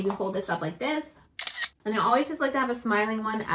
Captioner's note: camera clicking